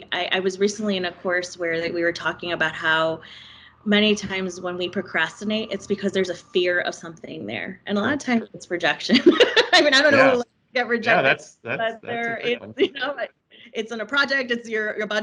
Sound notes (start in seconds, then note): 9.0 laughing; 12.0 faintly speaking